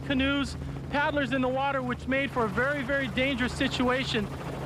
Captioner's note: helicopter chopping